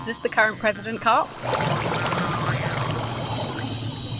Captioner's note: water swishing